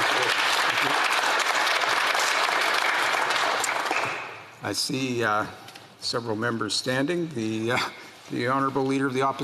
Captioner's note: some Applause